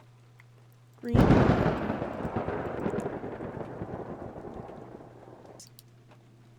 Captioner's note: thunder